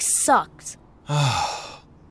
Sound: defeated sigh

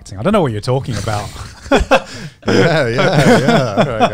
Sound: everyone laughs

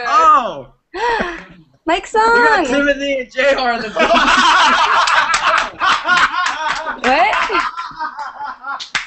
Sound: laughter

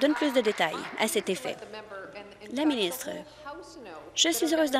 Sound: applause

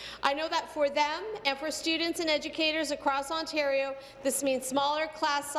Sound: speaking in French; speaking in English

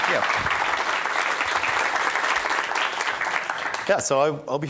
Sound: audience applauding

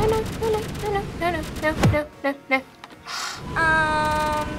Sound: scoffs

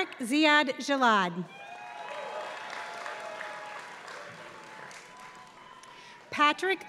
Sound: applause

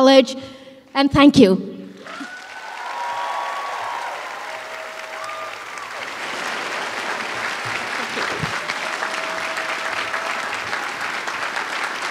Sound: applause

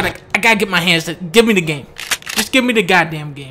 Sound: cocks gun

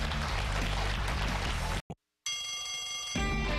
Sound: cheers and applause

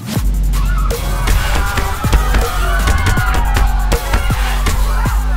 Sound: club crowd yelling

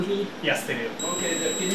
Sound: relay 1 beeping loudly

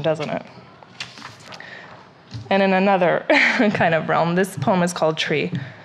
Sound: laughs

